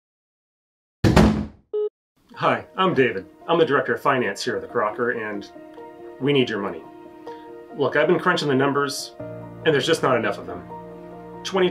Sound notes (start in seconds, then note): 1.0 door slams